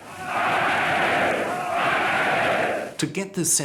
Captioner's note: chanting "Heil"